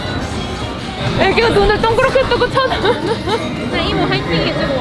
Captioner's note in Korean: 웃음